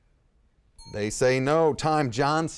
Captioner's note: bell rings